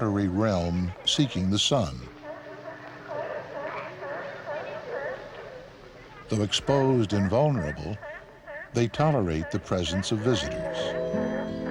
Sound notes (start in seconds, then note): 2.9 sea Lions Barking